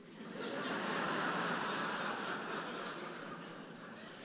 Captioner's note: audience laughing